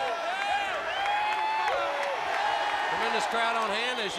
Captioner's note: crowd cheering